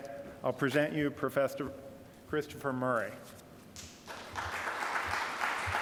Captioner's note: applause